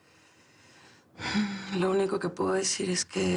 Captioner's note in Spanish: Suspiro